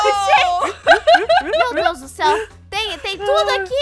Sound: laughs

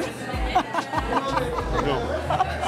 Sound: laughs

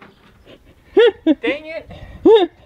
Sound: giggles

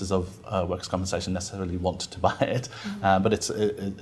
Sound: laughs

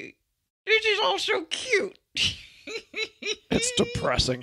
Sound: laughs

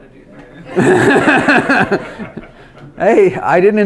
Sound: laughs

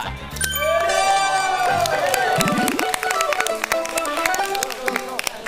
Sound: shouts of victory

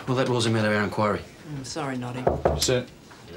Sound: man knocks

